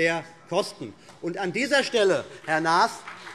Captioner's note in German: Beifall BÜNDNIS 90/DIE GRÜNEN